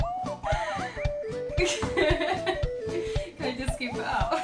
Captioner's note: laughs